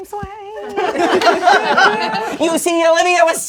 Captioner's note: crowd laughing